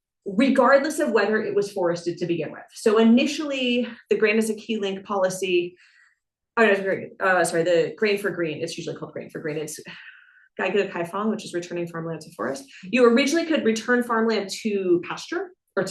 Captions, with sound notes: regardless of whether it was forested to begin with. So, initially, the "Grain is a key link" policy... Oh, that's right, sorry, the "Grain for Green," it's usually called "Grain for Green." It's (speaks in Chinese) which is returning farmland to forest. You originally could return farmland to pasture